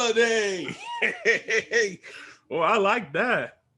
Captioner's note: Bobo laughs